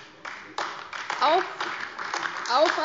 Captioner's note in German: Beifall AfD